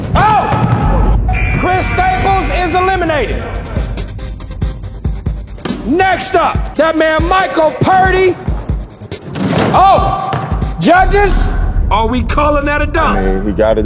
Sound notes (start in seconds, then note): 1.3 buzzer; 9.5 dunk sound